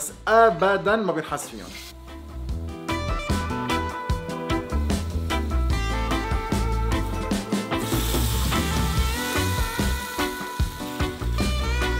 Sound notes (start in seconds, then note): 8.6 sizzling